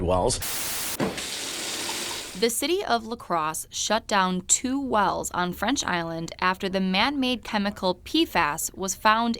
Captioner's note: nat water dripping